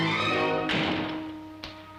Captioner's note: intense music; door slams